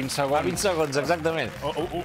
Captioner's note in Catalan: aplaudiments